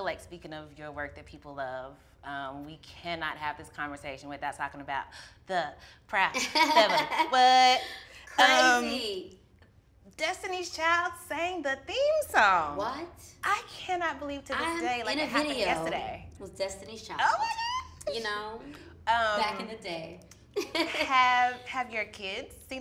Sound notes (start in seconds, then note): 7.5 laughs; 20.2 laughs